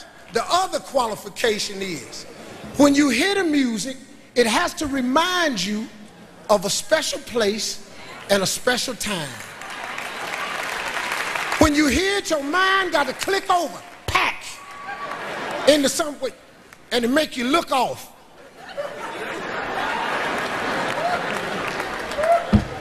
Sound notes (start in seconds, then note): 9.4 audience applauds; 18.4 audience laughs